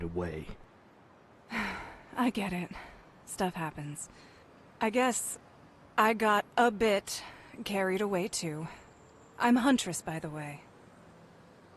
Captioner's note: sighs